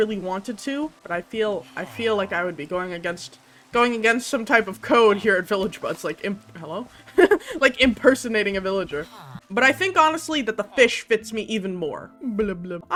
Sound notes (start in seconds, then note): 7.0 giggles